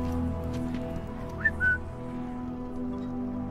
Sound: whistle

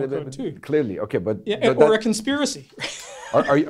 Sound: laughing

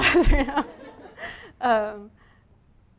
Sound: laughter from the audience

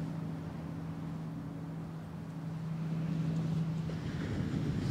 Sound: the ocean sounds grow softer

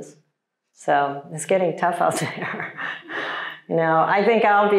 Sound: chuckles

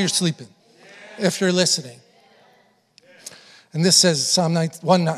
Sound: congregation affirming

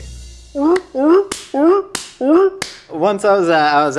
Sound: barks like a seal

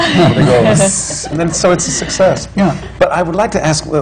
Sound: laughter

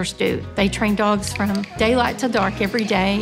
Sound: clickers clicking

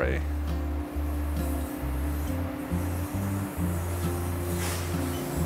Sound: train engine roaring

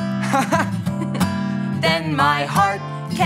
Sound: chuckles

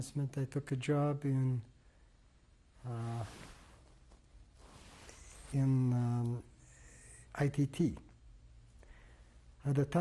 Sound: pauses for 3 seconds

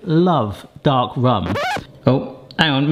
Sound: vinyl record scratching

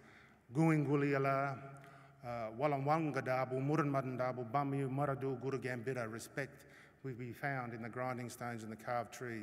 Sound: non-english speech

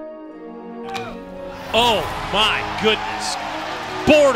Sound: bat hits ball

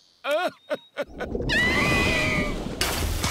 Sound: chuckles; screaming

